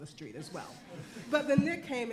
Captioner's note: laughing